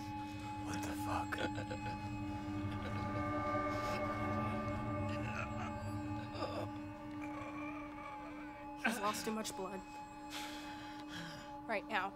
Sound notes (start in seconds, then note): 2.0 light dramatic music; 6.0 Gabriel groans